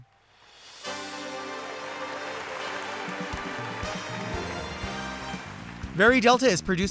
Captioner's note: bright dramatic music; audience applauding